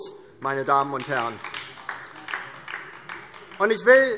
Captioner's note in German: Beifall DIE LINKE